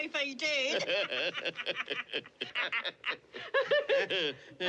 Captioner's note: DlLBER & JOE LAUGHlNG